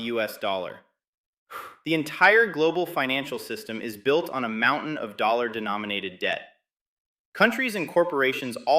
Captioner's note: exhales